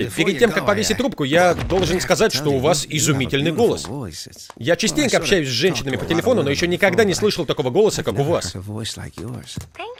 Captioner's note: none